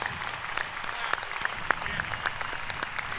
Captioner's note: applause